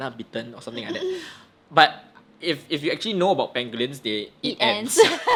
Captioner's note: chuckles; both laugh